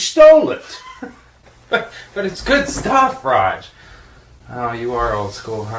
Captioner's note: chuckles